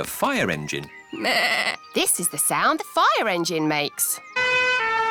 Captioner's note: bleats; siren blaring